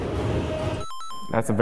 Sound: Mario pause sound effect

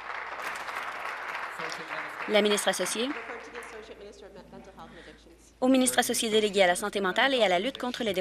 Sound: applause

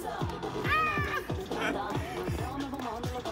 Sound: laughs

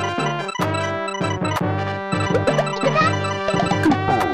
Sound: sucking at Panel de Pon noises

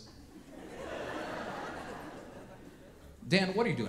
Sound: audience laughing

